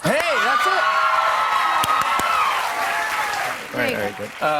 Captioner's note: cheers and applause